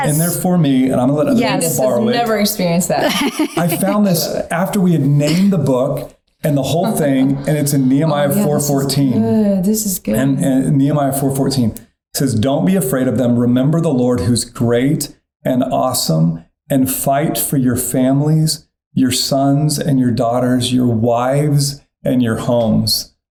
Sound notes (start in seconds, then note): 2.8 laughing